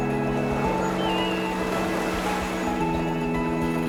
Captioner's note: gulls calling